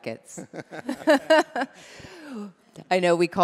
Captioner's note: chuckling